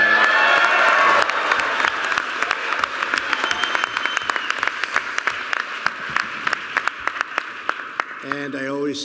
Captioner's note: applause